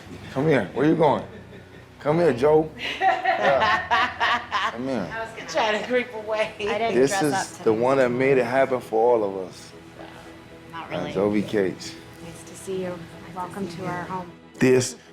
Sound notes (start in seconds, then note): 2.8 laughter